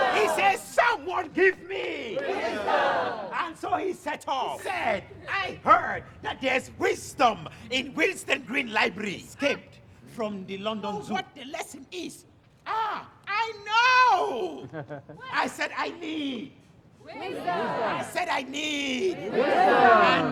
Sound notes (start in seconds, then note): 17.0 crowd